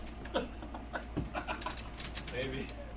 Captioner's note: laughs